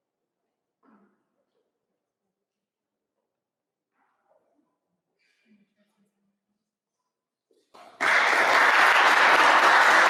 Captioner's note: applause